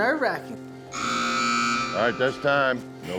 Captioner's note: buzzer sounds